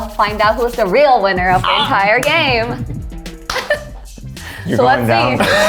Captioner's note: laughs